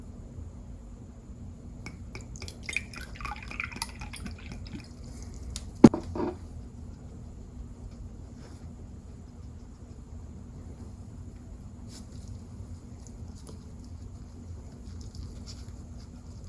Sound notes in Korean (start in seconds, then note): 1.9 물 따르는 소리